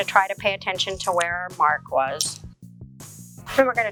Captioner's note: scissors cutting